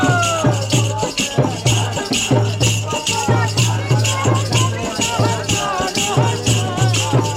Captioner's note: chanting